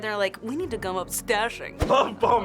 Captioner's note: stately voice; laughs